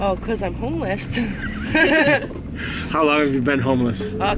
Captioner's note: laughing